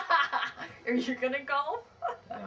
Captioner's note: laughing